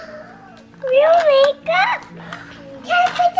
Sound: gasp

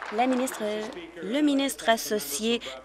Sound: applause

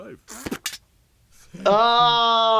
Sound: spits bullet out

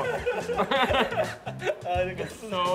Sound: laughing

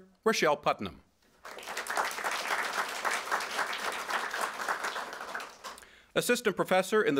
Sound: applause

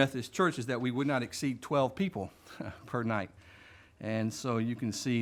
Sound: chuckles

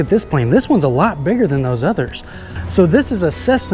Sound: distant engine whirring

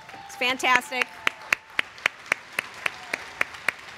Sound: applause

